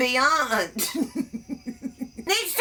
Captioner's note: giggles